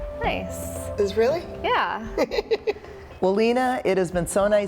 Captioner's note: laughs